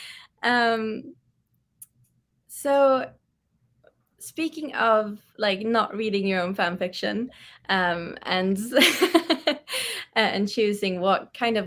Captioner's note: laughs